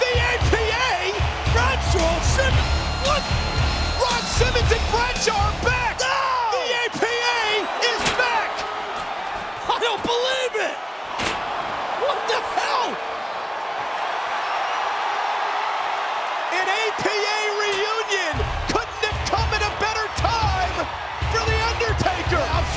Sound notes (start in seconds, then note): 13.6 crowd cheers